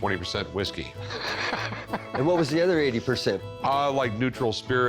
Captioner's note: laughs